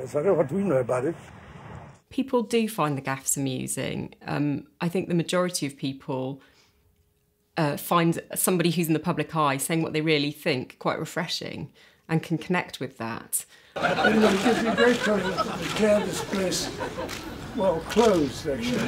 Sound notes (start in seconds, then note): 13.8 audience laughing; 14.2 cameras clicking; 18.6 audience clapping; 18.6 many laughing